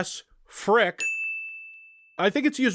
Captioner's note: ding